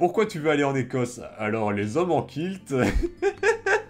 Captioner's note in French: Rires